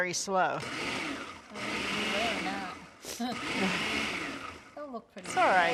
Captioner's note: blender Whirring